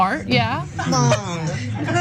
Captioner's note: laugh